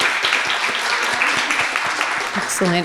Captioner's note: audience applauding